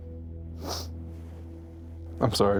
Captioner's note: sniffles